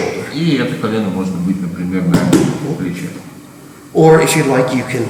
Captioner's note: speaking in a foreign language